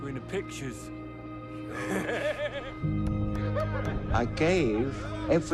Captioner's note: laughing